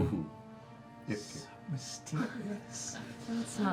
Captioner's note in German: flüstert